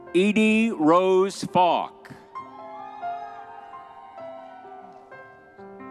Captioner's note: crowd cheering